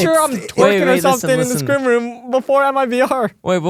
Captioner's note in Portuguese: risos